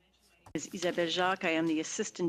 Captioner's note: speaking French